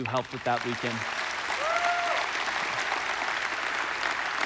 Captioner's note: congregation applauding